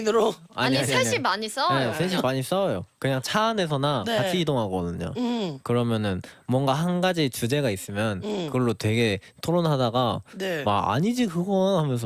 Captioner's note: repeats